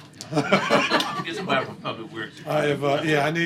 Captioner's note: laughter